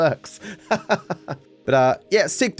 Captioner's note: laughs